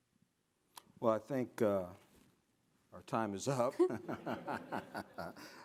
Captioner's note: chuckles